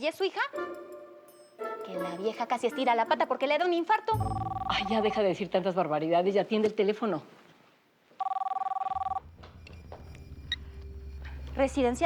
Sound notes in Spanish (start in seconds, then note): 4.1 Suena el teléfono; 8.2 Suena el teléfono